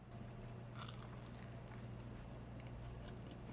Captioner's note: crunch